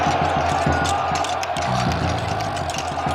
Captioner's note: camel snorts